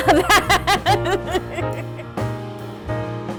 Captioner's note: laughter